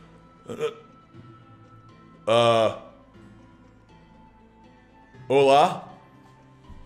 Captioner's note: yawn